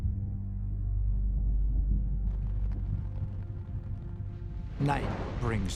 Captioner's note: thunder roaring